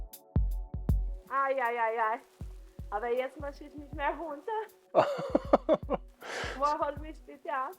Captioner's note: laughing